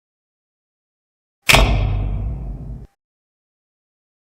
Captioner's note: old fashioned spotlight 'thunking' on